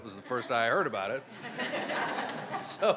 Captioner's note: crowd laughing